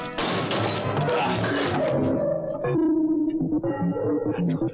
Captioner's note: both grunting